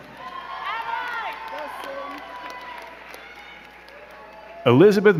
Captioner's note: crowd cheering and clapping